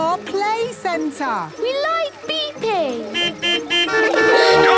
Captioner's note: horns beeping